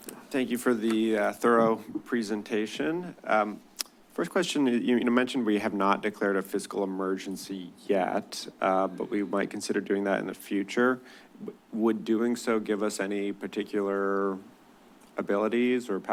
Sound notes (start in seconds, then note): 3.8 clicks tongue